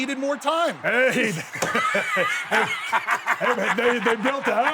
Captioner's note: laughs; Bubba Ray laughs